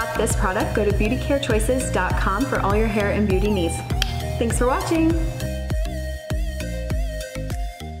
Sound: clicks Tounge

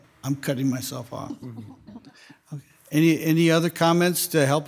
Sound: members softly chuckling

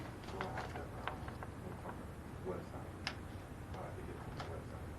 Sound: faintly speaking

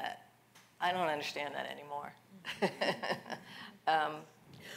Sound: laughs

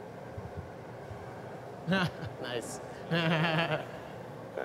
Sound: laughter

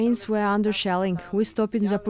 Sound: speaking Foreign Language

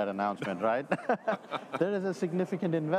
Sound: all chuckles

